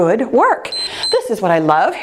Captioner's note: timer beeps